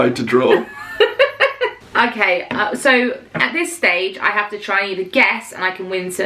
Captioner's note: laughing